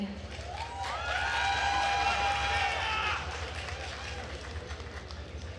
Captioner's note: attendees cheering and applauding